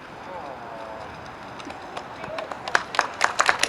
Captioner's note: people murmuring; audience applauds; audience cheers